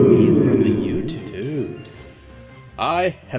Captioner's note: chorus of "Ooooooooooooo!"